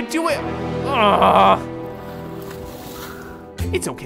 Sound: groaning

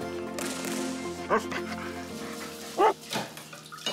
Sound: dog pants, barks

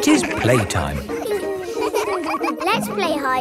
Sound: all giggling

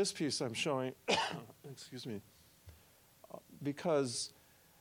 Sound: coughing

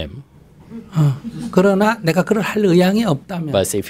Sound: audience laughter

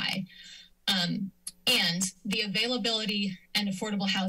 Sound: clicks tongue

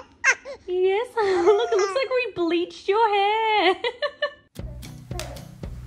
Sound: giggles; laughs; upbeat music

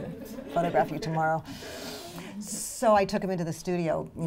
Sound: audience laughter

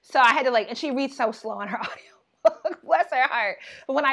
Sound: laughing

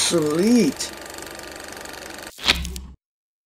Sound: projector Noise

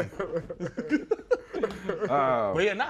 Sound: laughter

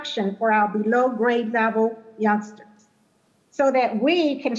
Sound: faintly speaking

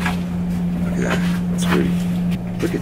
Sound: quietly

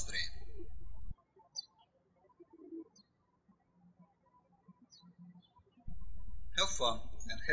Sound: birds chirping

